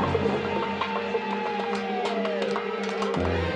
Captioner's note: siren wailing